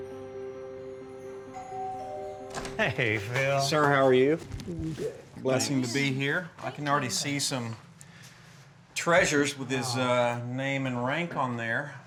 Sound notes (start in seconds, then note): 0.1 door bell